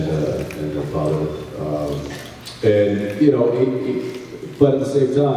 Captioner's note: smacks lips